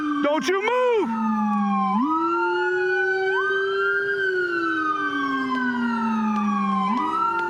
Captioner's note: sirens